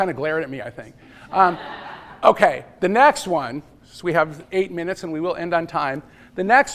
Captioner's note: laughter